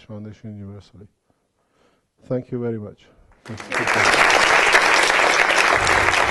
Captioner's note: clap, clap!